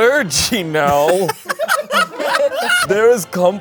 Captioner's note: all laughing